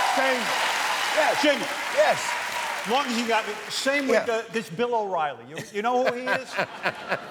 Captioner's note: cheers and applause